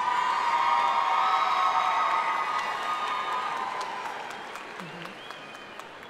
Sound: audience cheering and applauding

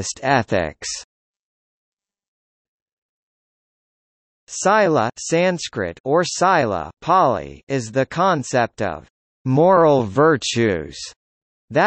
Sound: Pāli

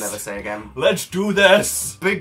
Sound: dramatically

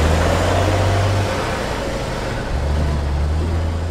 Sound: sound of truck driving away

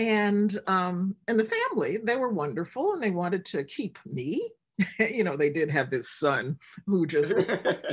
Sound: laughter

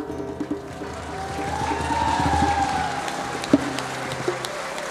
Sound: clapping and cheering

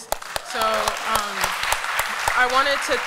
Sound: applause

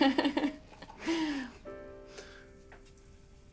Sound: chuckling

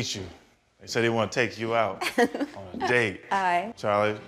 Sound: laughing

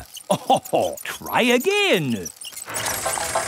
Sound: chuckles

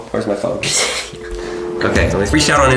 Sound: dial tone humming

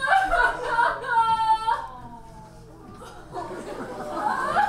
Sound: sobs

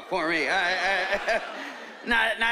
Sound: laughing

